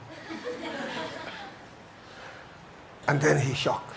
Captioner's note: audience chuckles